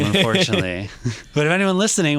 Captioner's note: laughs